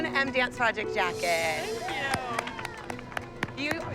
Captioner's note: applause and cheering